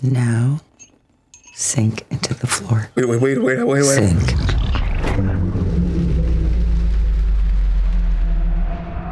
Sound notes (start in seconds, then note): 5.1 wet sinking sound